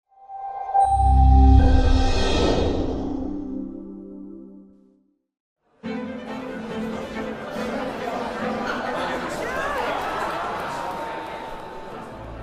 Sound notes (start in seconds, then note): 0.3 bright music; 5.8 crowd chatting; 5.8 dramatic music